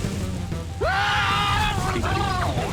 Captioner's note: screaming